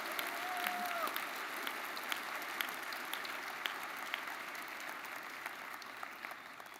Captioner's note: audience applauding; audience member cheering